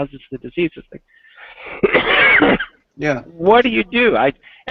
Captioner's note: coughing